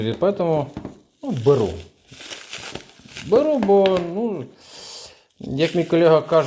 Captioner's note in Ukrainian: сопіння